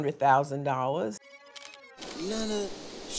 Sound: camera shutter clicking

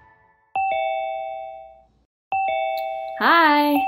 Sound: computer ringing

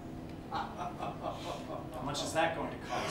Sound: Mr. Hughes Laughs

